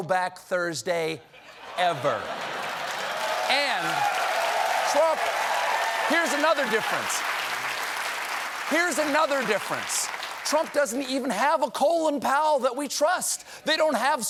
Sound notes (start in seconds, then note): 3.7 cheers and applause; 3.7 laughter